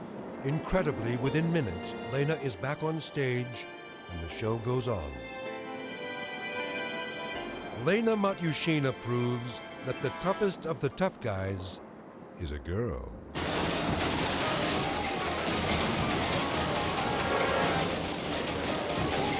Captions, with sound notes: Incredibly within minutes, Lana is back on stage and the show goes on. (dramatic music) Lana Matuschina proves that the toughest of the Tough Guys is a girl. (tense music) (wall crashes)